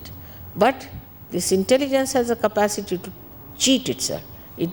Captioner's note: none